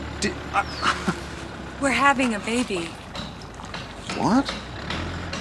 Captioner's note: scoffs